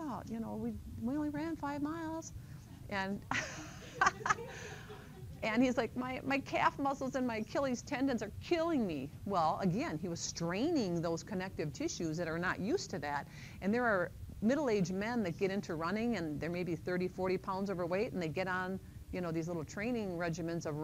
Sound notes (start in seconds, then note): 3.3 laughter